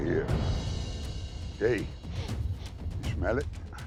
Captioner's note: sniffs